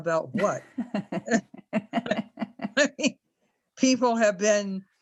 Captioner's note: laugh